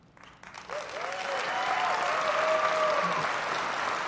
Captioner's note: applause